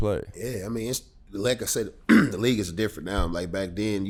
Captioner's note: clears throat